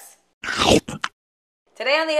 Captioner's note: munches